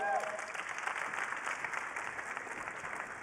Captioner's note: applause